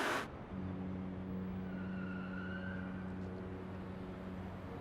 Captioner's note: boat honking